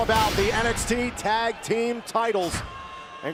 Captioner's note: crowd cheering